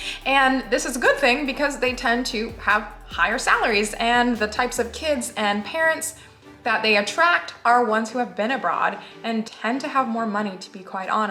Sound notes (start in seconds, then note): none